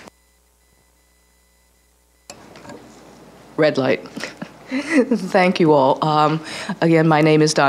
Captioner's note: laughs